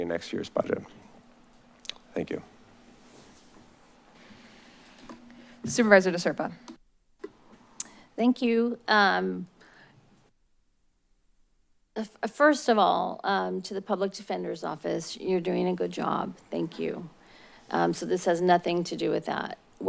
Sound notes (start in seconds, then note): 7.5 smacks lips